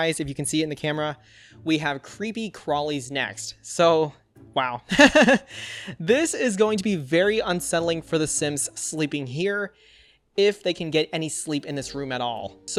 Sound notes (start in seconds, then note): 4.9 laughs